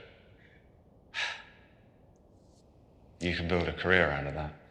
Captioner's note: sighs